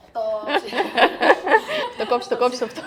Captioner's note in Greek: γέλια